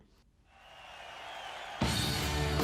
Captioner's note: audience cheering; upbeat music